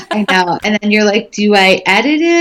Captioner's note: laughing